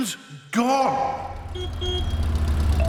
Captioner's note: horn honks